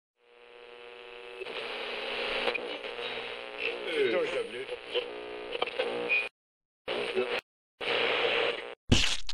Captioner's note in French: Bruits de statique